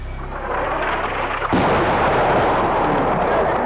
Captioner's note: explosion